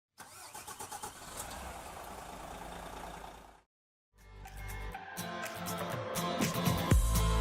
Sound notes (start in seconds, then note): 0.1 engine starting; 4.2 upbeat music